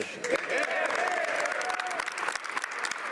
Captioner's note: speaking French